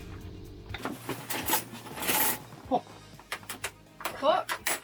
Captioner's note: spoons tinkling